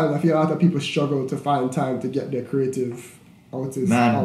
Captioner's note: none